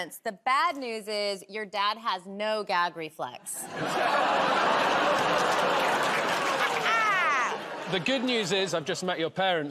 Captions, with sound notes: The bad news is your dad has no gag reflex. [ Audience groans ] -Ha ha! -The good news is I've just met your parents.